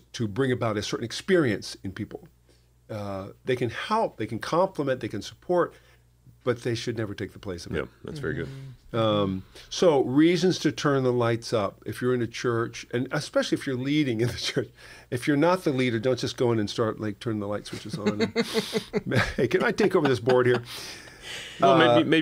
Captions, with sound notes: to bring about a certain experience in people. They can help, they can compliment, they can support but they should never take the place of him. Yeah, that's very good. So reasons to turn the lights up if you're in a church and especially if you're leading in the church. If you're not the leader don't just go in and start turning the light switches on. [laughter] "Hey, can I take over this board here?"